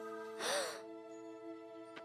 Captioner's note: gasps